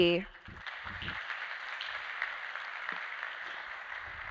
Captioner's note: applause